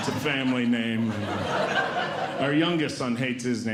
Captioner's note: audience Laughing